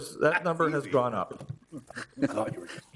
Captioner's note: laughs